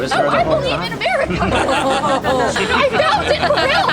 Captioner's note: evil laughter intensifies